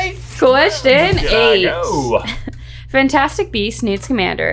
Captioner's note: laughing